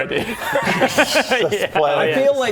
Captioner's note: keen giggles